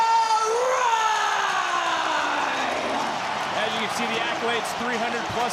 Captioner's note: audience cheering